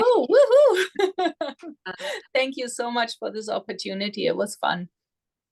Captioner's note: laughs